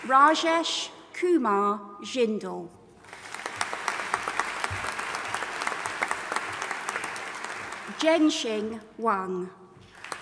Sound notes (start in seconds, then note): 3.0 audience applauding